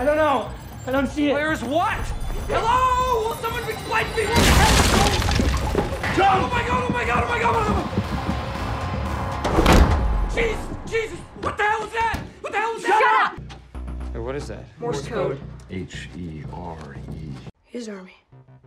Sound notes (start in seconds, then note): 4.3 crashes; 8.0 sinister music; 9.4 door slams